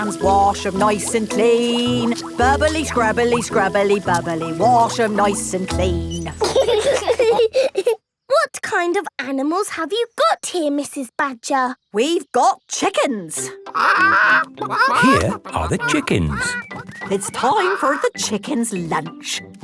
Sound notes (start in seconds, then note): 6.0 laughing; 13.7 clucking